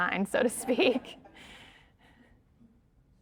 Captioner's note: all laugh